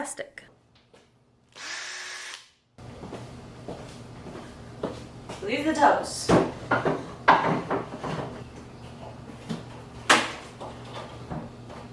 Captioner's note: drill sounds